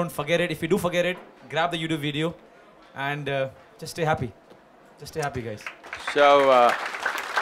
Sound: applause

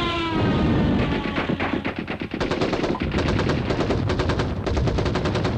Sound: airplane whirring above; explosion; gunfire

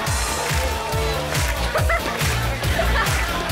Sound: laughing

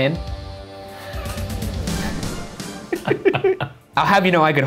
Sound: laughing

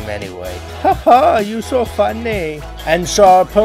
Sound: in an attempted German Accent

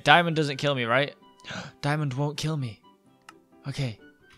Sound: gasps

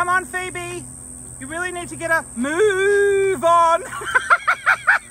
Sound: laughs hysterically

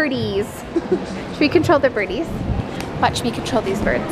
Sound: laughs

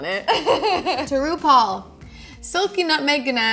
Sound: laughs

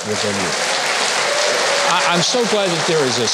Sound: audience applauding

